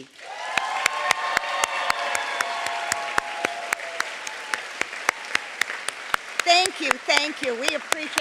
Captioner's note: applause